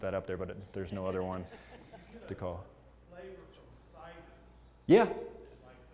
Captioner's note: laugh